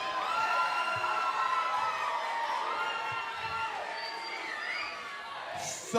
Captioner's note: cheers and boos; cheers and applause